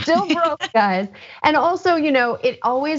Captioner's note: laugh